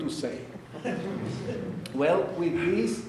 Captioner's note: audience laughing